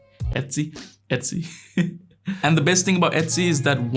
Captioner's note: laughs